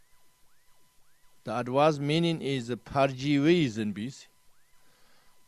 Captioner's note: tibetan